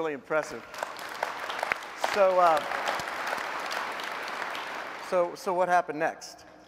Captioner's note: applause